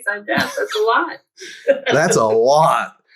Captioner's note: laughs